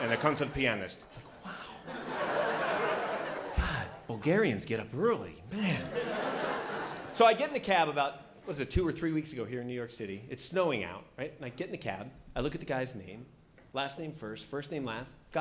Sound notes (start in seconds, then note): 1.6 laughter